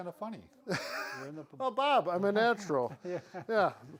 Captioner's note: laughs; laughs